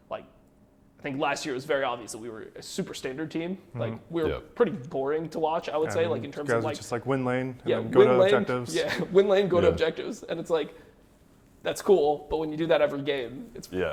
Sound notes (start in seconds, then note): 9.6 laughs